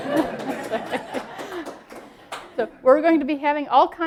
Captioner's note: laughter